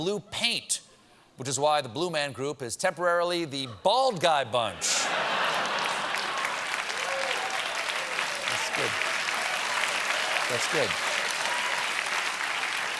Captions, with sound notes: WHICH IS WHY THE BLUE MAN GROUP IS TEMPORARILY THE BALD GUY BUNCH. ( LAUGHTER ) ( APPLAUSE ) THAT'S GOOD. THAT'S GOOD.